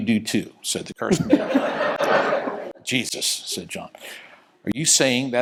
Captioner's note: laugh